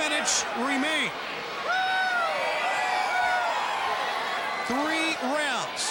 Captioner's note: crowd cheering